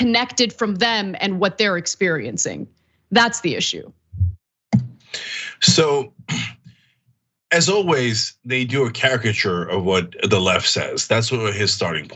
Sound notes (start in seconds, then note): 5.2 cough